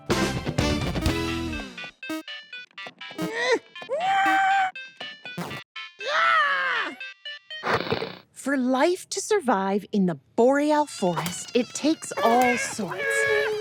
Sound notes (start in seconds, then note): 0.0 upbeat music plays; 2.3 Derps grunt; 2.3 video Game beeps; 7.4 click! Static; 11.1 mosquito buzzes